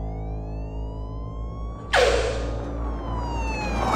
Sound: siren wailing

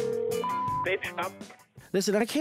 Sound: beeping

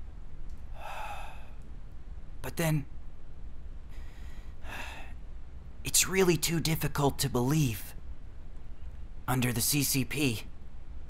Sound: sigh

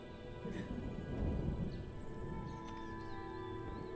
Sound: thunder

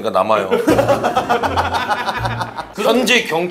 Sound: hahaha

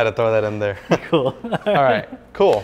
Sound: laughs

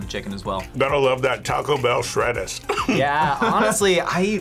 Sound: laughs

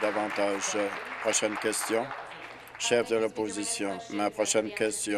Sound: applause

